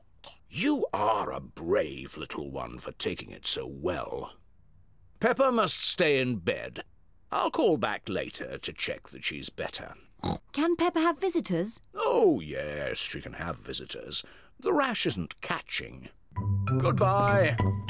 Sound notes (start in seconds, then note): 10.2 oinks